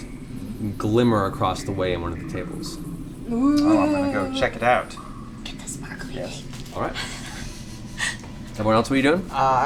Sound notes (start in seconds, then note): 5.2 whispers